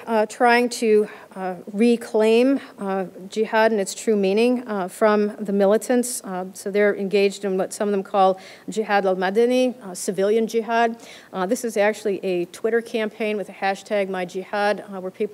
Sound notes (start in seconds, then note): 9.2 arabic